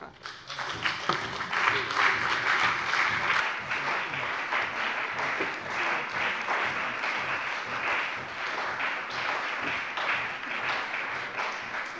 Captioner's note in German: Beifall bei dem BÜNDNIS 90/DIE GRÜNEN und der CDU